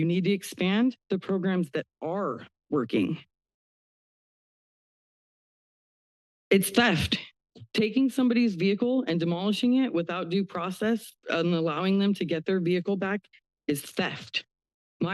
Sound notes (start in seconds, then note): 3.1 pause